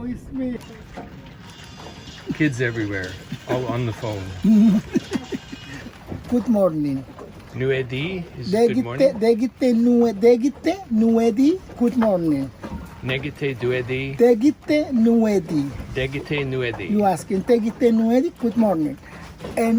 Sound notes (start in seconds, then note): 8.8 speaking in foreign language